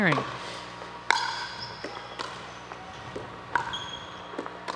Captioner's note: ball bouncing